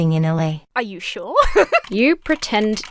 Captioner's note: laughs